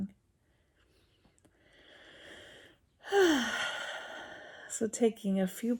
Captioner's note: takes large breath